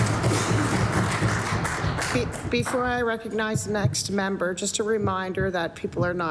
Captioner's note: applause